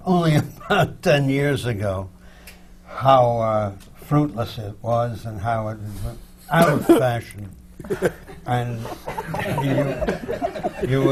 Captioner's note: laughter